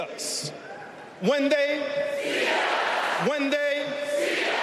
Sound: cheers and applause

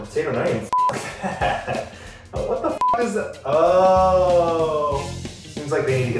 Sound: beep

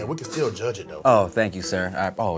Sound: brakes screech

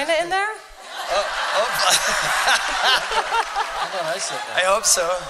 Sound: laughter

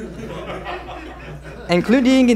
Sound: laughter

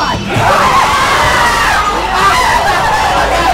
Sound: screaming

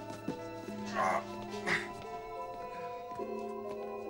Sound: <i> groans</i>

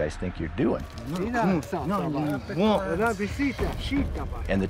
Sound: speaking shoshone

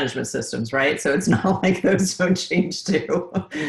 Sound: laughs

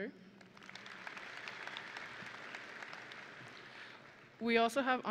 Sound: audience and graduates applauding

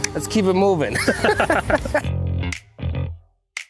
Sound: both laughing; dynamic music

